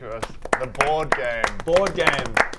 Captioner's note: well deserved applause